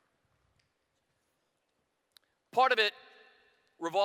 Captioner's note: none